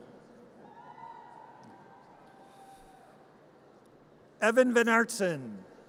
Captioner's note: audience cheers